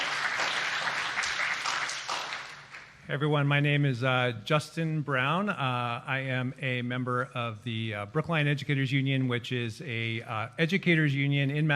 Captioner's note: applause